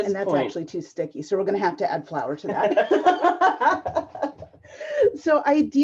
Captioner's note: both laugh